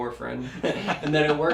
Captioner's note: laugh